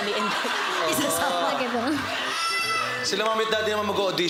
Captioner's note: crowd laughs